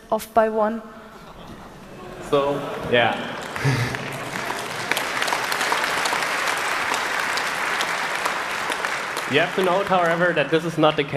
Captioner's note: laughter and applause